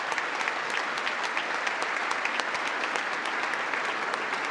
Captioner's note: congress applauding